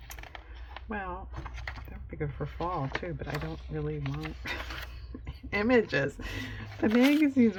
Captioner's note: laughs